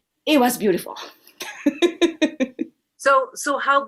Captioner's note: laughter